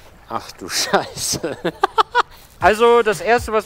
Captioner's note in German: lacht